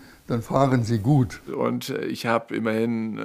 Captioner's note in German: none